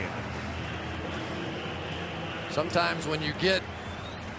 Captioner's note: pa announcement